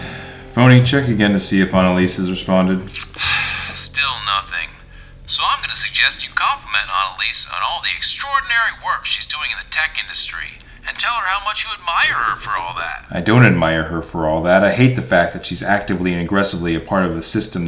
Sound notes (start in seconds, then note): 2.9 sighing